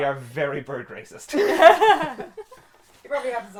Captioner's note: laughter